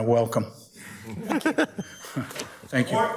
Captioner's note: judges chuckle